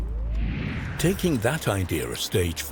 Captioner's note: air wooshing